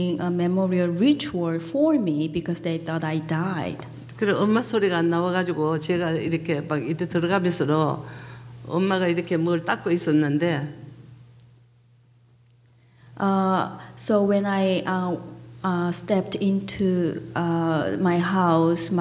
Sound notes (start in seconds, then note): 4.5 speaking foreign language